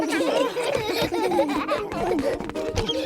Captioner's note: all laughing